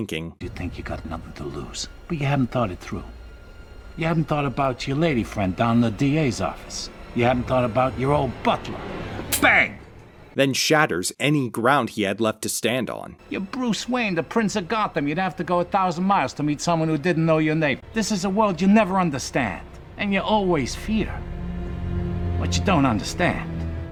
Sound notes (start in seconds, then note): 9.5 gun hammer clicks harmlessly